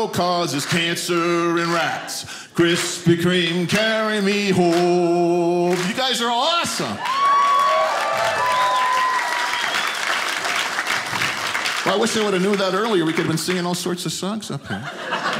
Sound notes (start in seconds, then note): 6.6 audience applauding